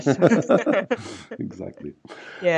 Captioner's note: both laugh